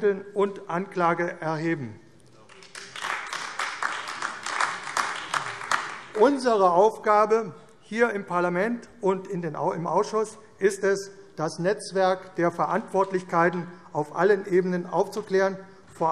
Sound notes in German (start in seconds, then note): 2.4 Beifall AfD